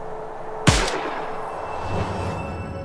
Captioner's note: sound of a gunshot